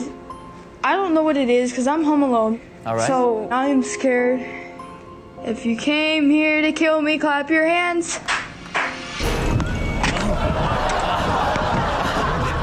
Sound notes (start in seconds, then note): 7.8 person claps; 10.1 audience laughs